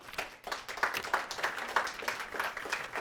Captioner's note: applause